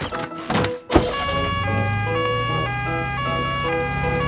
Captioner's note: siren sounding